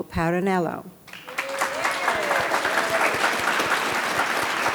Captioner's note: audience applauds